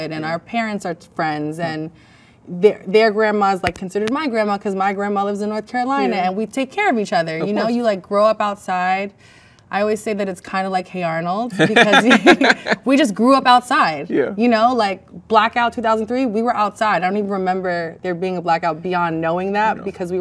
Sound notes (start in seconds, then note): 11.5 man laughs; 11.5 laughs